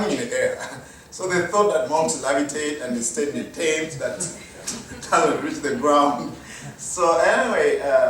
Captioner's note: chuckle